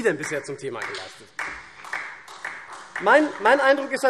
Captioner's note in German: Beifall SPD